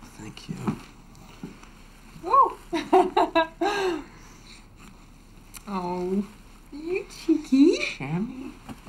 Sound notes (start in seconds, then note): 3.3 laughs